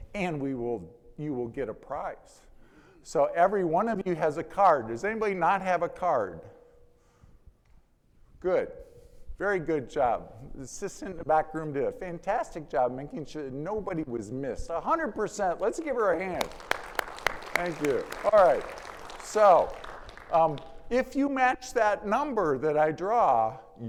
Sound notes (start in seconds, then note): 15.8 audience clapping